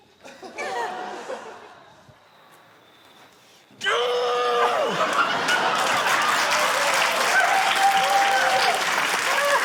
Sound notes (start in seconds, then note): 0.1 laughter; 3.8 david yells loudly; 4.7 laughter, cheering, applause